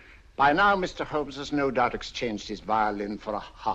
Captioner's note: none